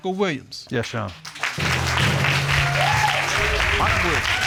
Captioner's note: applause